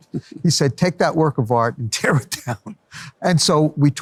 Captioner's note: laughs